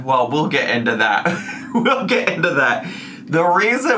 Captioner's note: laughs